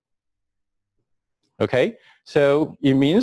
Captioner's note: pause